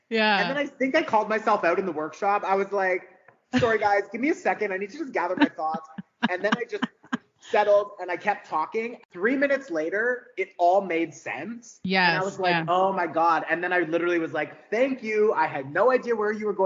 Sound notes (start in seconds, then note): 6.3 laughing